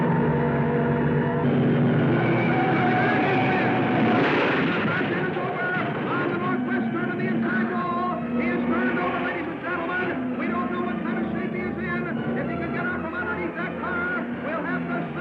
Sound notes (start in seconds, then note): 3.1 tires squealing; 5.0 car crashing